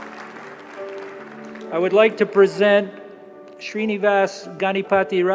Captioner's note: applause